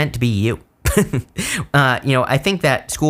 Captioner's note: chuckles